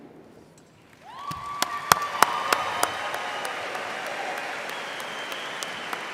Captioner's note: audience applauding and cheering